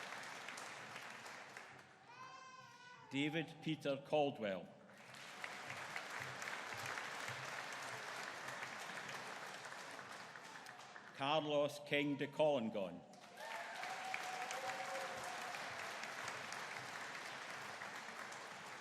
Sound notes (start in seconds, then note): 5.0 audience applauding; 13.3 audience cheering